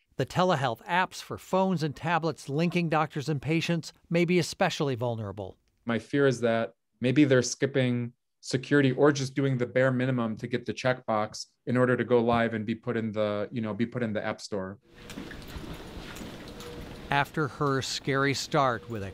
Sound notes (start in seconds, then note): 14.9 wheelchair softly rumbles